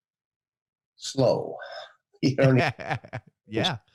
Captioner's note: laughs